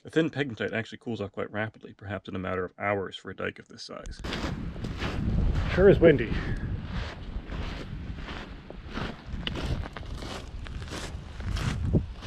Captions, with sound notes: A thin pegmatite actually cools off quite rapidly, perhaps in a matter of hours for a dike of this size. Sure is windy. (footsteps crunching)